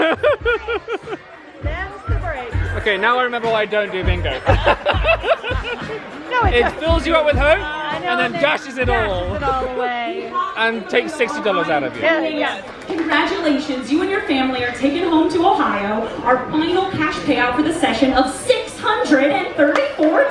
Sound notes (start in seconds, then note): 4.3 both laugh